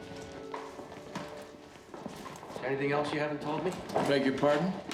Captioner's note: none